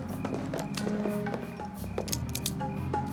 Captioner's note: guns clicking